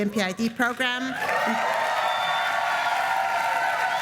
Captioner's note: applause